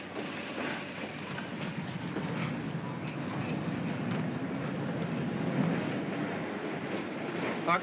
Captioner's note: subway car rumbles